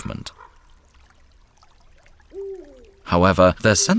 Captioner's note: cichy plusk wody, daleki głos puchacza